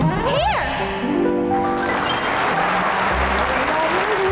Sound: audience applauding

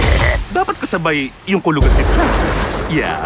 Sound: thunder rumbles

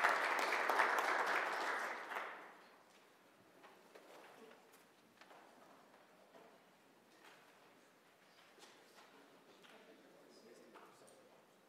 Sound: applause

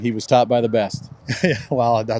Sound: laughs

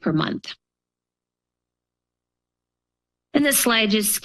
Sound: pause

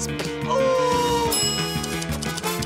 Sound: bell dings

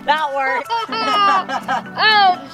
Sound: laughing

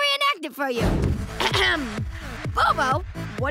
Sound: clearing throat

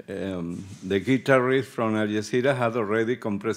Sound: speaking Spanish

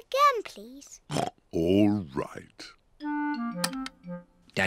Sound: oinks

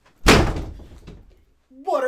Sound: door slams

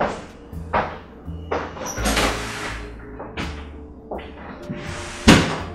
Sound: footsteps, door opens and shuts

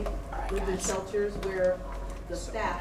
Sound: whispering

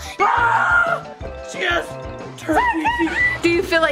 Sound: screams

